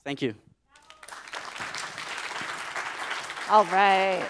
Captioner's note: applause